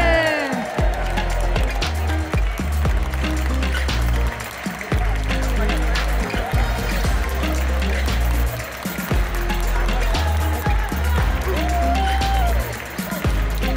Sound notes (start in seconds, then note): 0.0 applause; 0.8 ♫ Midtempo guitar music ♫